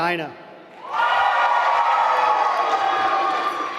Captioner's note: applause